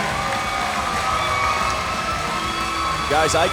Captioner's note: cheers & applause